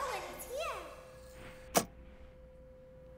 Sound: click

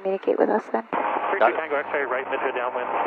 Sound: static

